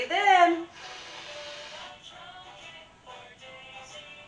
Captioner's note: breathing in